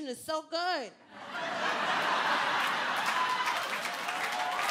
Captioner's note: crowd cheering